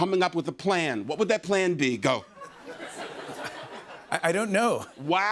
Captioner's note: laughter